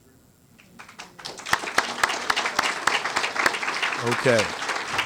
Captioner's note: applause